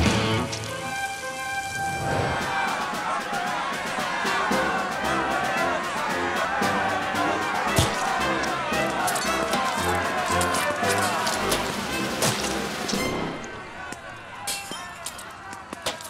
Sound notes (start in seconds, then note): 1.3 determined music; 4.0 muffled angry speech; 7.8 food splashes